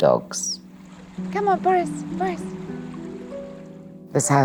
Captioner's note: water babbling